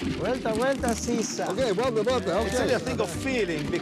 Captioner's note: speaking Spanish